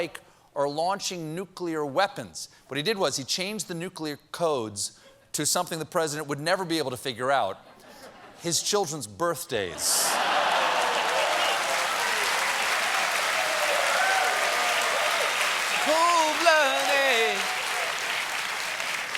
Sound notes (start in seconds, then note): 7.5 applause; 7.6 laughter